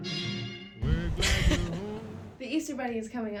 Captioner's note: laughing